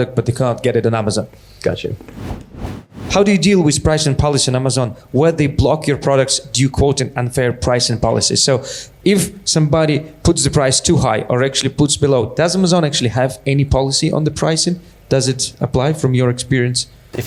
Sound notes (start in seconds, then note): 2.0 whooshing